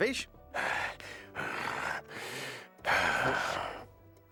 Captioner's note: gasping